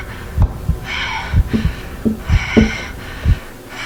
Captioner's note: tapping